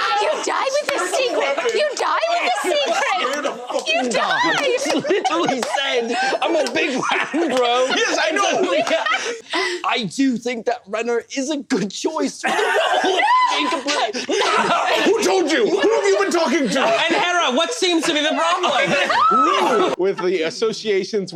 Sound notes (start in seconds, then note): 5.6 nervously laughing; 8.7 more laughter; 13.2 Andhera screams; 13.2 Chirp screams; 19.0 Chirp screams